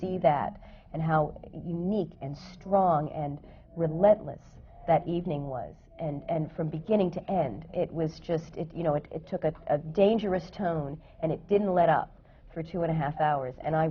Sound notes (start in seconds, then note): none